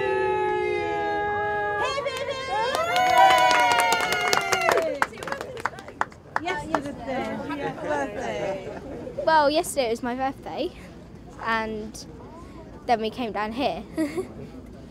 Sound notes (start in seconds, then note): 1.8 people cheering and clapping